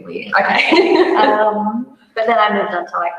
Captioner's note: laughs